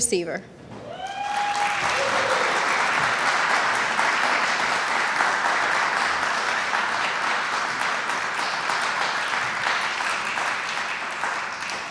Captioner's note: applause